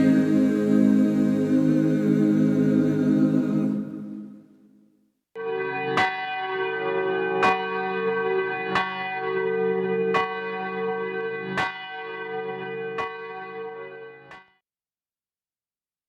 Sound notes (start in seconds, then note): 5.4 bell dings